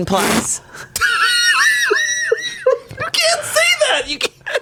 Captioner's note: laughs